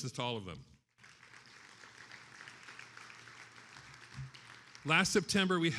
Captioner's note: attendees applauding